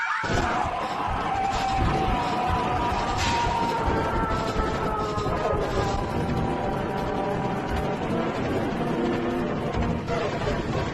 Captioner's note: alarm; drawn-out scream